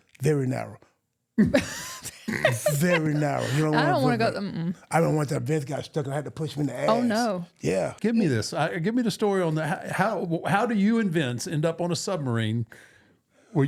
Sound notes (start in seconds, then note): 1.4 laughing